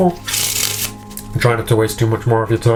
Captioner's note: cards scraping